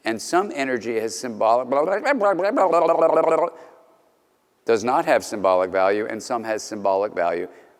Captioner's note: speaking gibberish